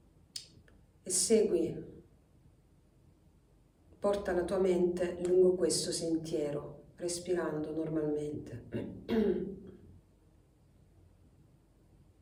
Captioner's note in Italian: schiarire la voce